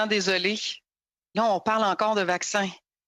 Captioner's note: speaking French